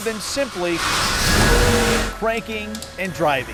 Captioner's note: Zamboni engine revving